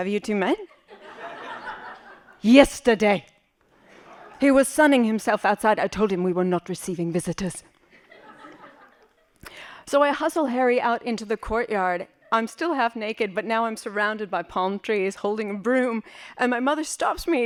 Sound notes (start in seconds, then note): 1.0 laughing; 8.2 laughing